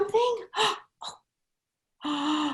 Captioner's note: gasping; gasps; inhales